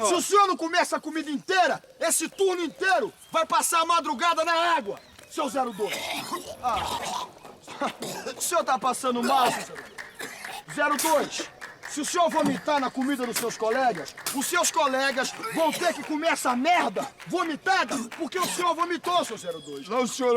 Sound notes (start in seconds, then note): 5.6 vomiting!